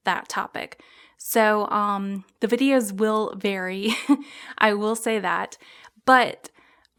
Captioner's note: giggles